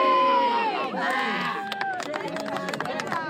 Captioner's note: cheers